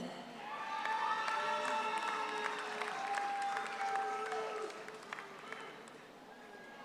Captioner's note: audience cheers; audience applauds